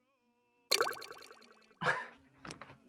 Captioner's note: chatroom chimes